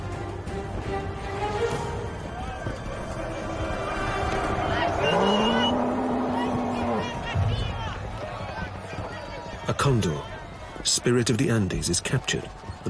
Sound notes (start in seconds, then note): 0.0 exciting music; 0.2 people cheering; 4.9 bull groaning